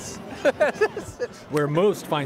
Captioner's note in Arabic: كلاهما يضحك